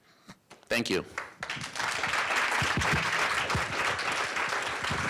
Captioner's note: applause